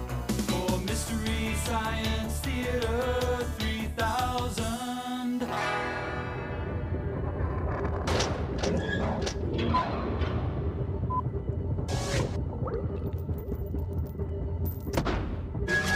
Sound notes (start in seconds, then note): 9.3 beeping